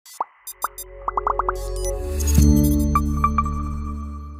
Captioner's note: logo pops and chimes